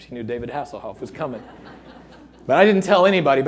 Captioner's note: audience laughing